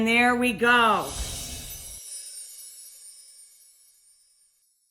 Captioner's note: chimes chiming